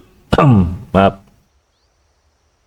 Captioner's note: coughs